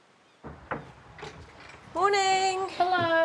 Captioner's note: knock on door